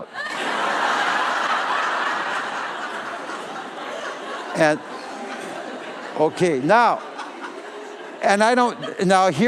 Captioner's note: laughter